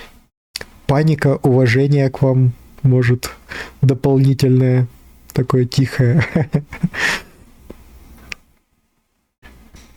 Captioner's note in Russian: смех